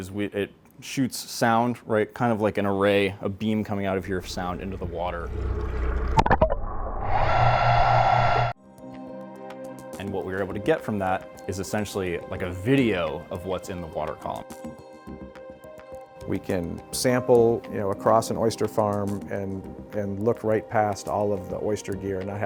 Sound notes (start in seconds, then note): 7.2 ARIS whirring; 9.0 gentle music